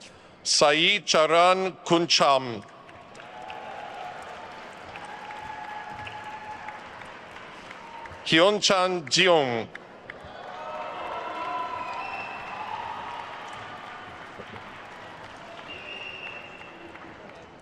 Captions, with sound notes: Sai Charan Kuncham. (attendees cheering and applauding) HyunChan Jeong. (attendees cheering and applauding)